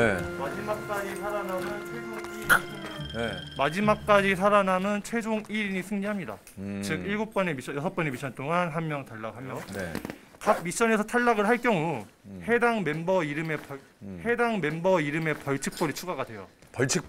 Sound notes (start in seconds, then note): 4.2 rustling